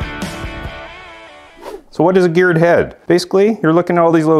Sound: note swooshes

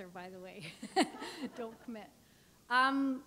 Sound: chuckle

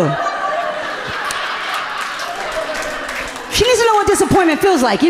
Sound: audience laughing amusingly

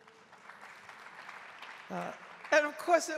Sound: audience applauding

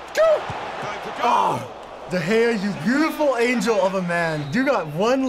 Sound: laughing; groaning

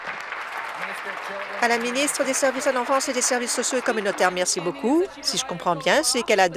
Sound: applause

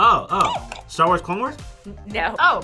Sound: buzzer squeaks

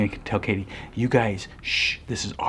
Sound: shushes

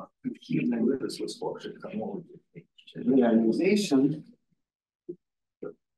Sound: audio distorting

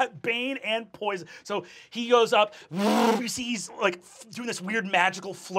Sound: revving

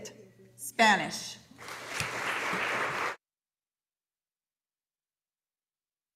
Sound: audience applauding

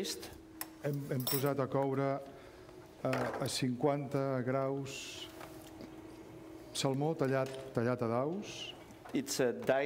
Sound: speaking catalan

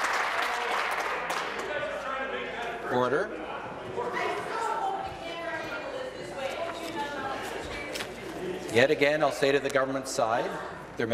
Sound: some Applause

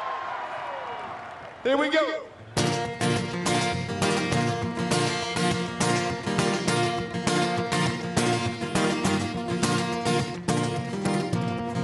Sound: cheers and applause

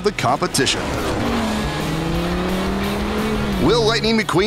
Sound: revving engines

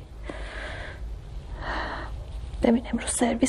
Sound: deep breathing

